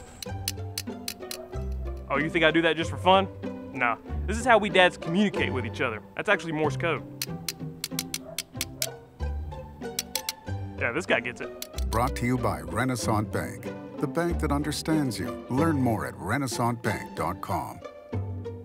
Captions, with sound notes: (Click, click, click) Oh you think I do that just for fun? Nah this is how we dad’s communicate with each other. That’s actually Morse Code. (click, click, click) (click, click) Yeah, this guy gets it! Brought to you by Renasant Bank. The bank that understands you. Learn more at RenasantBank.com